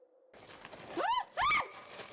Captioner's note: multiple Screams